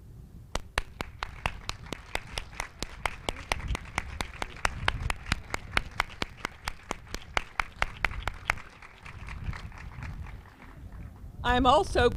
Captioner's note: applause